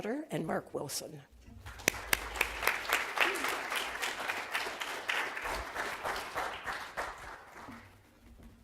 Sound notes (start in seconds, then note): 1.6 applause